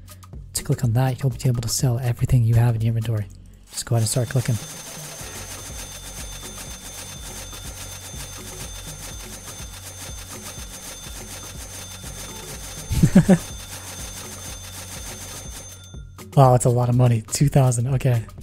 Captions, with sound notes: To click on that, you'll be able to sell everything you have in your inventory. Just go ahead and start clicking. (typing) (laughs) (typing) Wow, that's a lot of money. 2000, okay.